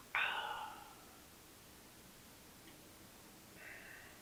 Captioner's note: Jacob gasps